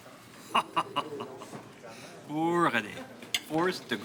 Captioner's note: laughing